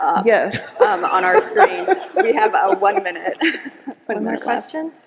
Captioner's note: laughs